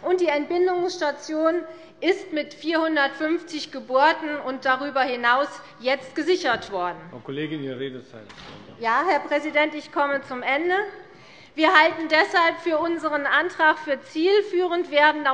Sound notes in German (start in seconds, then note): none